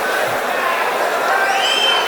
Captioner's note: wild applause and cheering for 22 seconds